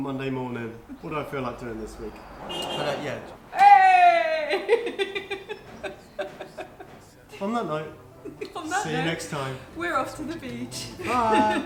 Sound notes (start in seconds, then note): 2.1 car Beeps